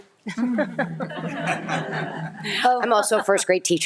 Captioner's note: audience laughing